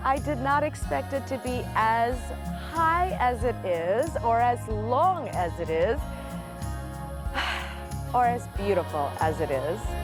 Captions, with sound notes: I did not expect it to be as high as it is, or as long as it is, (sighs) or as beautiful as it is.